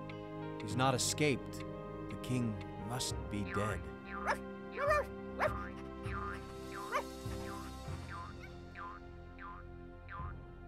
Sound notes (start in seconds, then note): 4.7 barking; 7.1 instrumental music